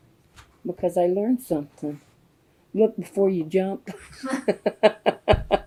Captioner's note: laughter